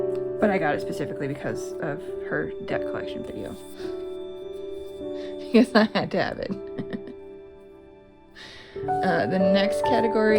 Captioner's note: laugh